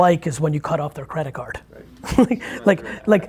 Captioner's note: laughs